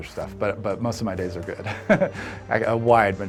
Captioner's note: laughs